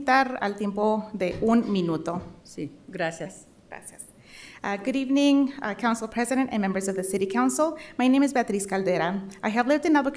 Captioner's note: speaking in spanish